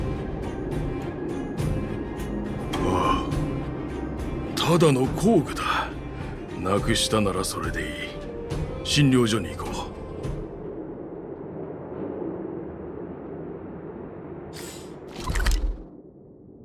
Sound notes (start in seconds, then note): 2.8 sigh